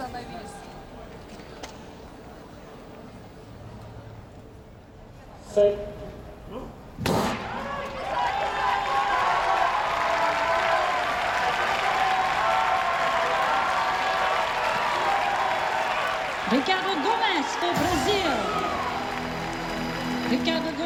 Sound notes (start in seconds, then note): 17.0 starting gun fires; 17.0 crowd cheers